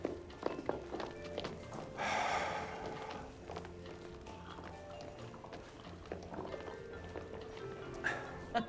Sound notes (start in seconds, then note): 1.9 sighs